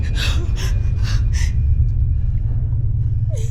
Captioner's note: crying